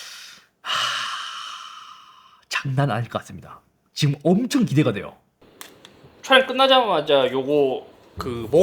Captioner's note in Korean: 한숨